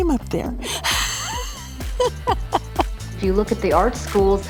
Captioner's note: laughs